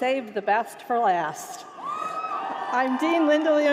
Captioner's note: applause